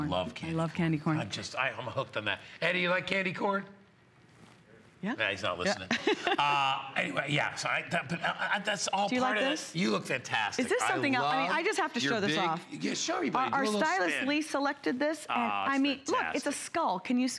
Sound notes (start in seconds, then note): 8.0 laughter